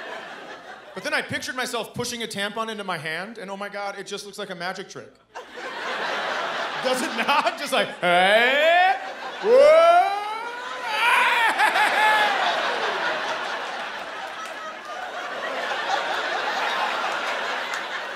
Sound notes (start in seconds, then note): 12.6 laughter